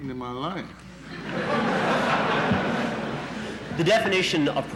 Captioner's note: laughter in the courtroom